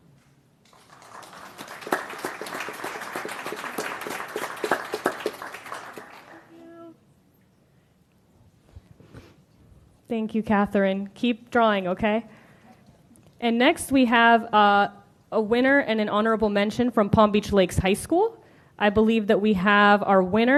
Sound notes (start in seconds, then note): 5.1 applause